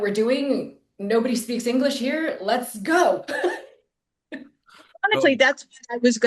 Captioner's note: chuckling